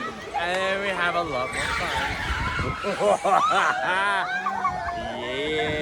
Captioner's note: laugh